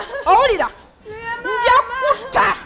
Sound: sobbing

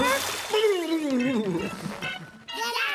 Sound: groaning; laughing

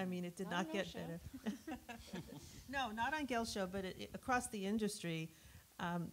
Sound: laughs

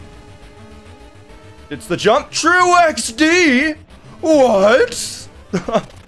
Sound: laughs

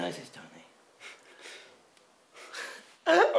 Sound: little laugh

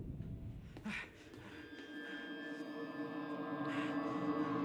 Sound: John gasping

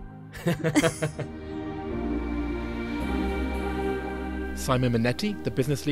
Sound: voiceover

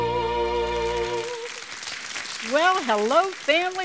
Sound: audience applauding

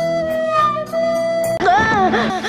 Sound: distorted

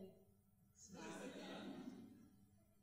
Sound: laughter

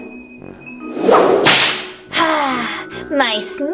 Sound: Romeo whooshing and slashing

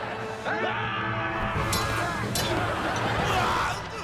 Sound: screaming

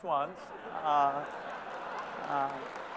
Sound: laughter; applause

